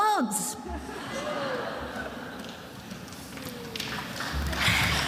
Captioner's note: attendees laughing; attendees applauding